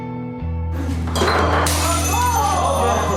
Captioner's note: glass smashes